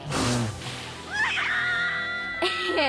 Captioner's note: sneezes; both scream